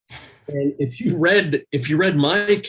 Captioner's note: laughs